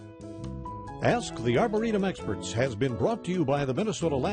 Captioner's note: voiceover